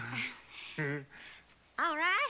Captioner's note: laughs